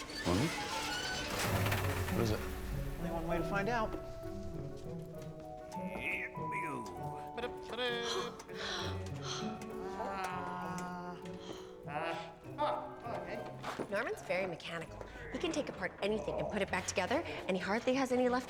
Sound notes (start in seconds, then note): 7.1 gasping; 8.4 muttering thoughtfully